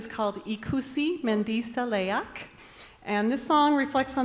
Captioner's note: announcer speaking in Basque